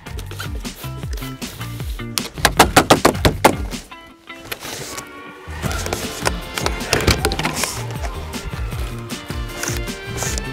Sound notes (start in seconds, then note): 0.3 lively music; 2.2 tapping panels; 4.6 lively music